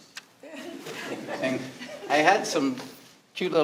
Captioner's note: all laughing